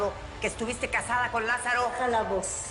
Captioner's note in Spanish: Gritando